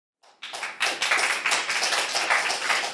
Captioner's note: applause